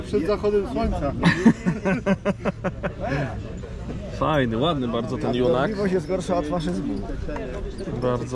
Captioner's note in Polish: śmiech